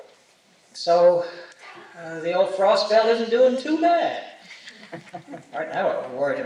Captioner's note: laughter